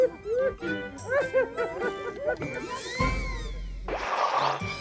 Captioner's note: people laughing